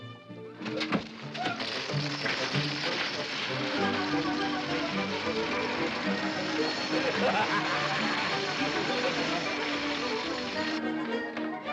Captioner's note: whimsical music; block clattering; coins pattering; whimsical music